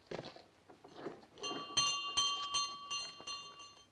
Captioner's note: bell rings